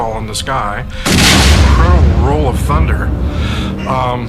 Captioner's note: explosion banging